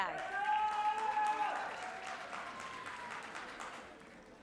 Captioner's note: audience cheers